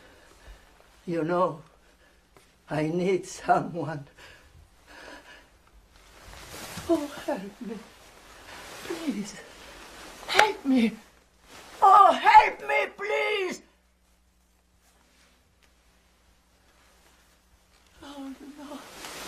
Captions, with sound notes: You know, I need someone. Oh, help me. Please. Help me! [yelling] Oh help me please! Oh no.